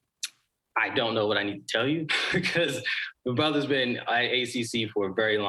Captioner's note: chuckles